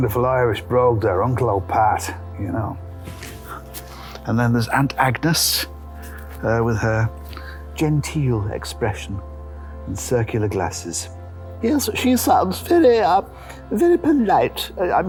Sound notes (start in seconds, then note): 2.1 cockney